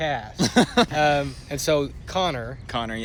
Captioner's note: laughter